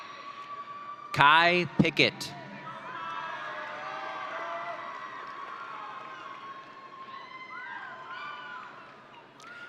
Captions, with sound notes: Kai Pickett. (audience cheering)